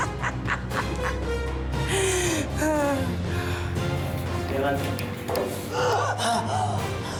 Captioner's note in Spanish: carcajadas